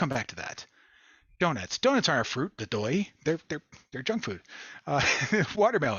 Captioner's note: laughter